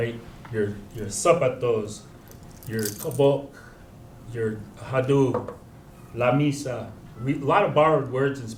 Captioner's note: spanish